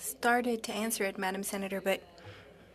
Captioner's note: speaking French